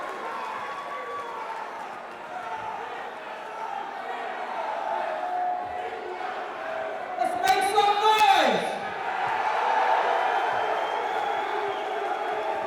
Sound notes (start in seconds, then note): 0.3 crowd cheering; 3.3 crowd chatter; 10.1 crowd cheering